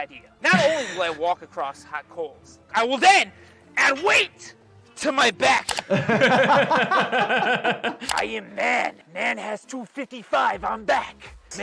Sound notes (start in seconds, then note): 5.7 laughing